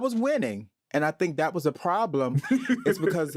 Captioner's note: all laugh